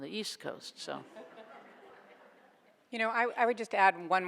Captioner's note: audience laughs